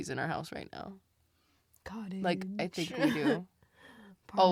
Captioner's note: laughs